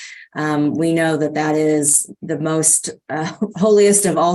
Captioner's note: none